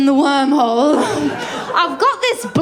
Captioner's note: laughter